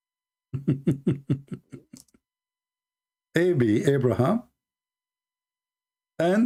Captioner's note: Ketawa